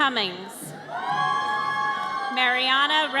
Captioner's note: audience cheers